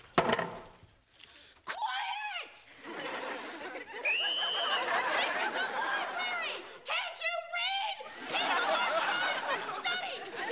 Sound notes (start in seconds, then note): 4.0 whistle blowing